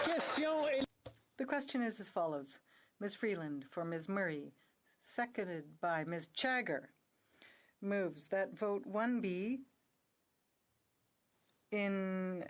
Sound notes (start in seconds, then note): 3.5 speaking in French